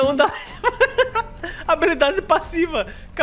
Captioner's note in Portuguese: risos